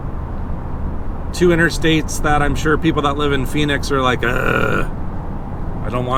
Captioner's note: growls